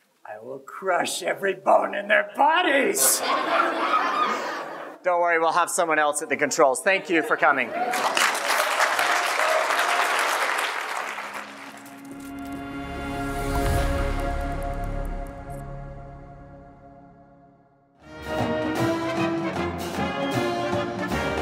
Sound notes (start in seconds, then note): 7.8 applause; 11.3 audio logo